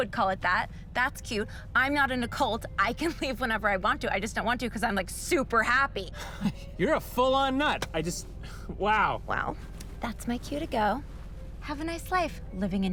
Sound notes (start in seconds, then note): 5.4 scoffs